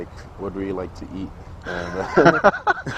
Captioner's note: laughs